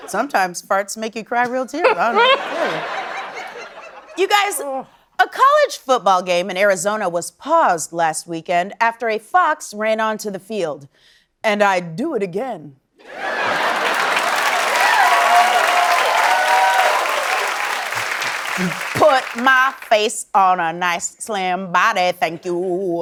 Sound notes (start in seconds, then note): 13.1 cheering and applause